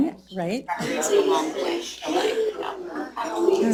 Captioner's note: indistinct chatter